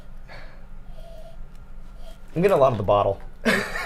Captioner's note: sniffs; laughs